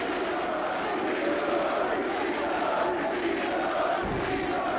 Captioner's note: crowd chanting